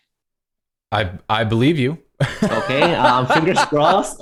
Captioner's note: laughter